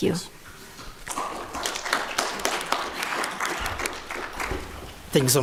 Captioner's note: applause